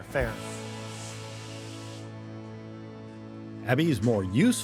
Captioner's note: wooshing sound